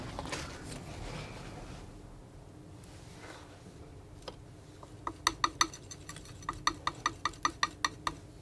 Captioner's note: tapping on paint